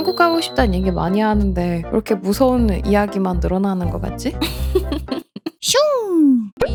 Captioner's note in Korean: 웃음